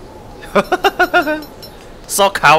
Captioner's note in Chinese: 笑聲